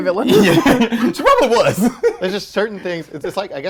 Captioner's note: laughs